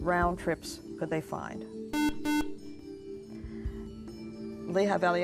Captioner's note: buzzer